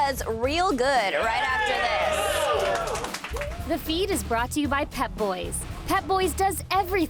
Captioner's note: cheers and applause